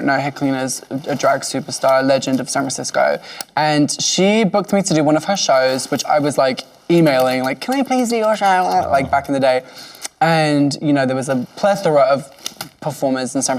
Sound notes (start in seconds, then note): none